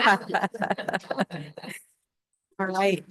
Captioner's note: laughter